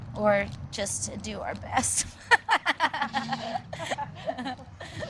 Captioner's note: laughs